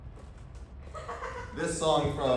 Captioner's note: still evil laughter